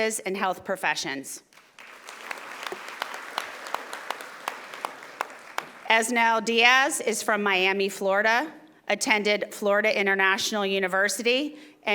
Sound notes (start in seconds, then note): 1.5 audience applauding